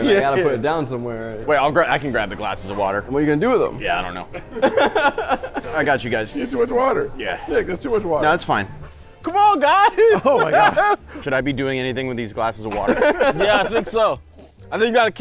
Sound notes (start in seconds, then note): 4.4 laughs; 12.7 laughs